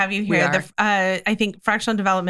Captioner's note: laughing